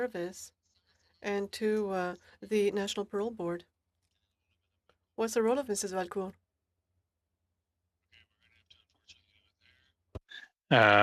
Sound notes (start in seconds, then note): 2.5 speaking French